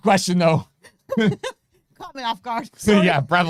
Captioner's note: both laughing